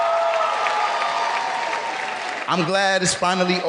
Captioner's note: cheering